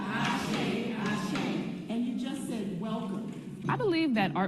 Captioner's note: foreign language